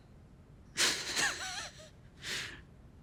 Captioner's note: Chris laughs